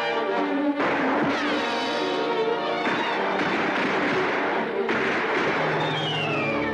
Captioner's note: intense music; guns firing